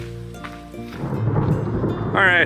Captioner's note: thunder rumbling